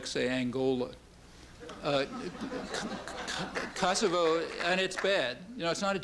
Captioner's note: laughter